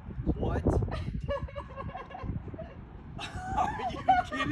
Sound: laughing

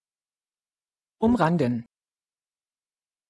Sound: fast Pronunciation

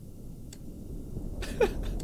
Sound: laughs

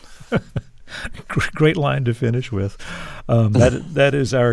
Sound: laughter

